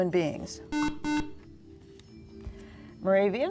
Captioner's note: beeping